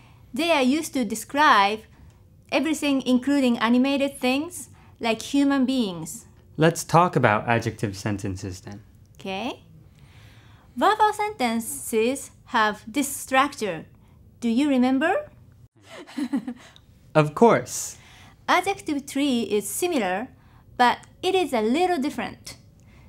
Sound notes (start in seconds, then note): 15.8 laugh